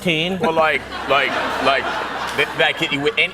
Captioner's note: laughter